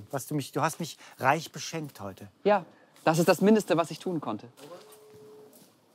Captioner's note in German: none